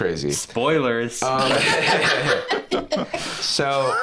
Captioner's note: all laughing